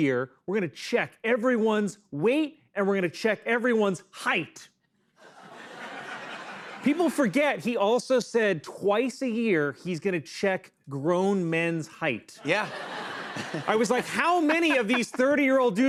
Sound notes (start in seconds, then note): 5.2 laughter; 12.4 laughter